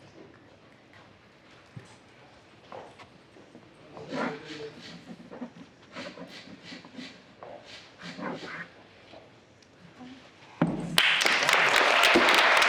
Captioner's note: applause